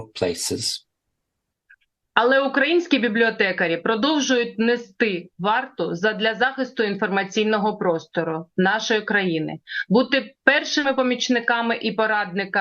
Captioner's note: foreign language